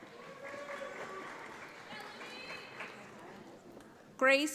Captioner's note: audience applauds